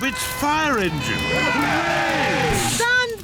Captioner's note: siren blares; all cheer